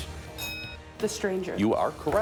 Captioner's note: bell dinging